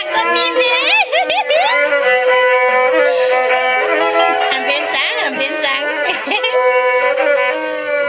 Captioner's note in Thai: ปรบมือ